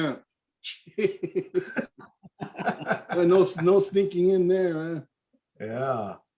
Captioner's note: all laughing